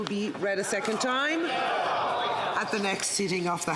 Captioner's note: speaking French